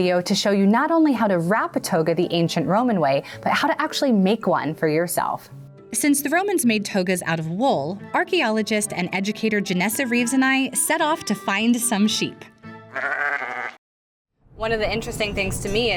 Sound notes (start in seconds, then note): 12.8 sheep bleats